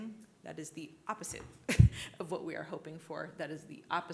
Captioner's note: laughs